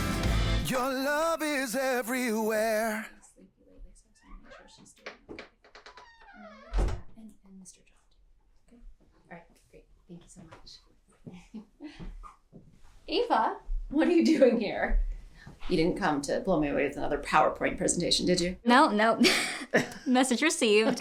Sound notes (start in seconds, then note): 3.2 women whispering; 5.6 door creaking